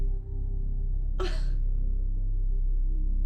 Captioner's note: laughs